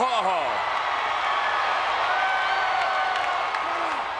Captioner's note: crowd cheering